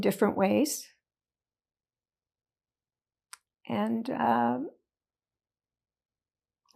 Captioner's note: pauses 4 seconds